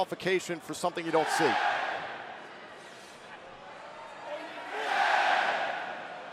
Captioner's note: crowd chatter